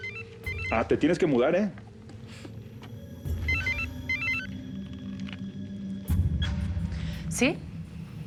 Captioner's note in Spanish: suena el celular; vuelve a sonar el celular